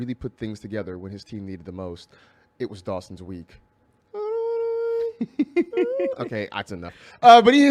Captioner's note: laughs